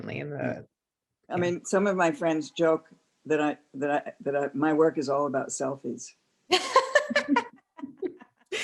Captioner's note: laughter